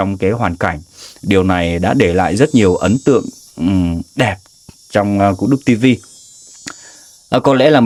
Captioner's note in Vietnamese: khịt mũi